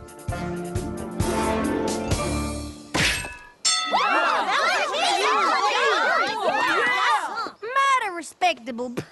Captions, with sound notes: [ Bell dings, cheers and applause ] Mighty respectable.